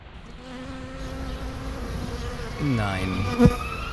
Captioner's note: humming